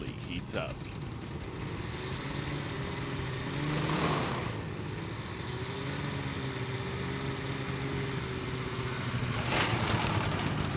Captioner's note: snowmobile engine revving; clattering